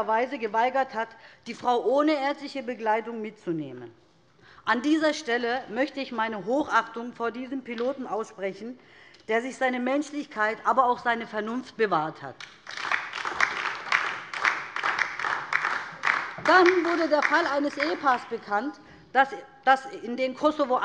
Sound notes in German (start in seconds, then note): 12.4 Beifall DIE LINKE